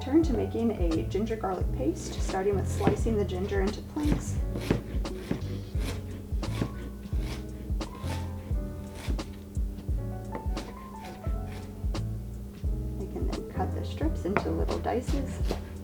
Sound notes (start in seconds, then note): 4.7 knife chops; 4.7 smooth jazz music continues